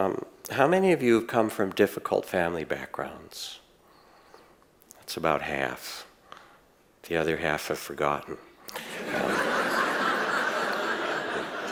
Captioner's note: audience laughs